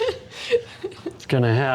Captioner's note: laughing